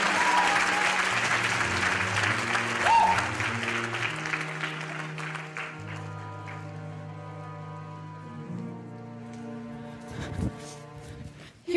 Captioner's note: applause